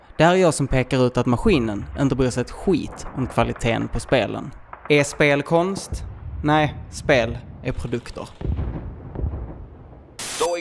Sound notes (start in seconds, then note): 8.4 explosions in the distance; 10.2 white noise